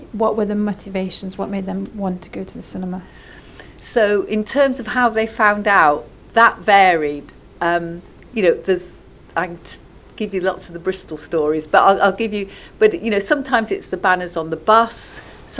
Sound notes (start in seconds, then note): none